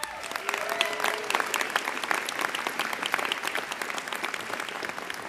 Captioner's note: applause